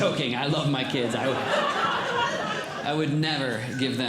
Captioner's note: audience Laughing